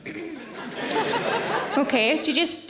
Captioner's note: audience laughing